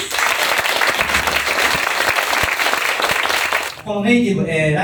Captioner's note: applause